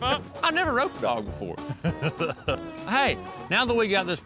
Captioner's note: laughs